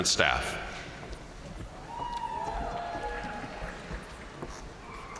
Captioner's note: crowd cheering